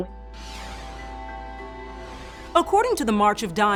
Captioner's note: somber music; screen whooshing